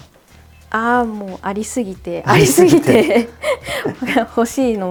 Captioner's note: laughter